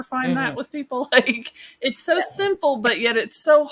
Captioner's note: chuckles